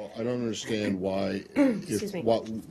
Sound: clears throat

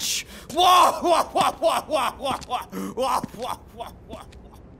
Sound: laughing

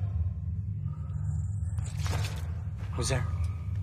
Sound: scuttling

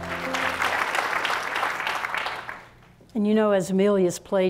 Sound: applause

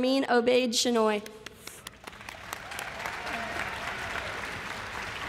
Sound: applause

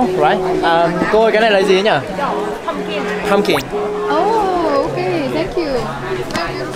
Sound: speaking foreign language

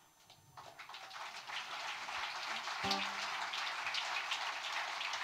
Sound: audience applauding

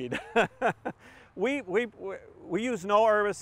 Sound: laughs

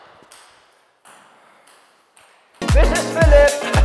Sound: ball hopping and rolling

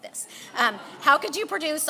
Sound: laughing

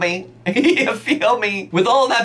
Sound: laughs

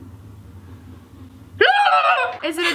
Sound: trills

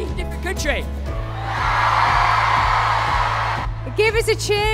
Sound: cheering

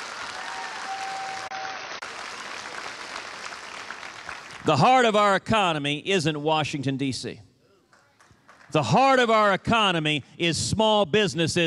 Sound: applause

